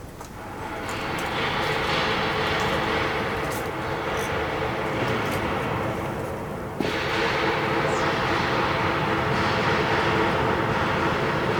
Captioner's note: more loud hammering